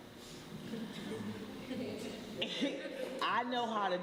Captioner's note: laughter